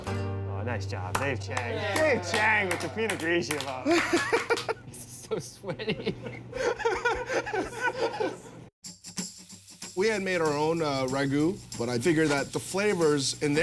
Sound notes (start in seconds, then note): 7.0 all laughing